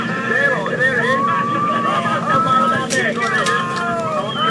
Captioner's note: people cheering